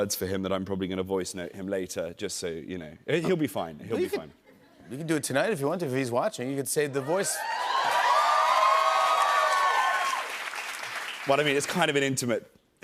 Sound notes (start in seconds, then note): 7.0 cheers and applause